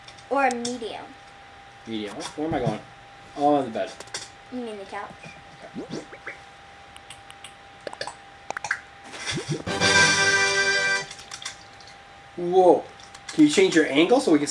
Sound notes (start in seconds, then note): 7.0 button noises; 9.7 excited trumpet noise